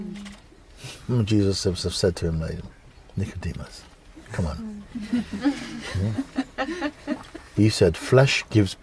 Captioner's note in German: Lachen